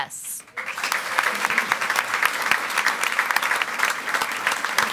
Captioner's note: audience applauds